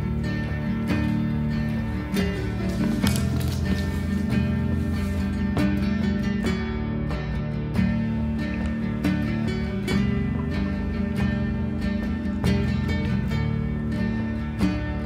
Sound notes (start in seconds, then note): 2.4 paws scratching the floor while running